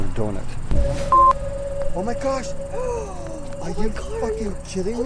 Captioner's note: beep; gasps